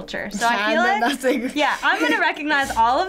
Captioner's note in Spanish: risas